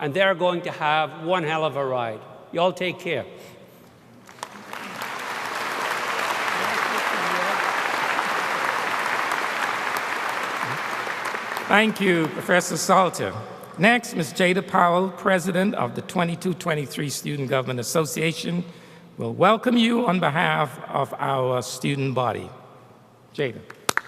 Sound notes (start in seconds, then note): 8.5 applause